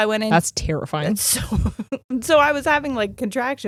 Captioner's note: laughing